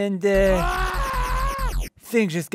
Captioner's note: screaming